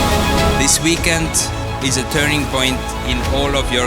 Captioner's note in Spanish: Voz de hombre